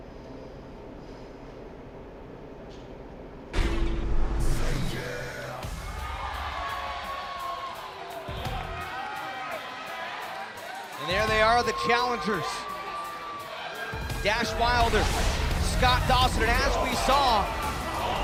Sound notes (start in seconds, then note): 6.4 cheers & applause